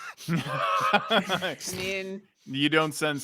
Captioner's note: laughing